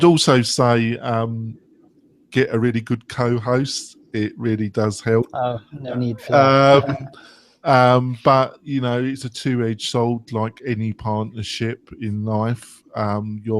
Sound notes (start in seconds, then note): 5.7 laughs